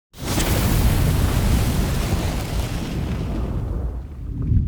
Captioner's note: flames erupting